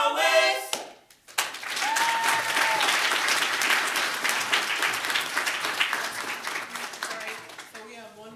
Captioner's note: audience laughs and cheers